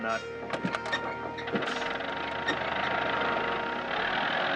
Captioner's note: engine starting